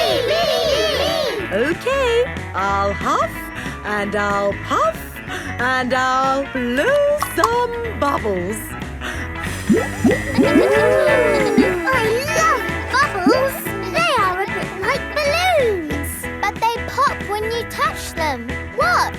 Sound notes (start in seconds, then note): 11.0 kids gasping and laughing